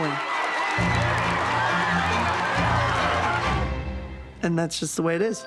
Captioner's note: cheers and applause